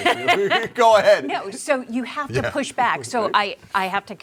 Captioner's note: laughter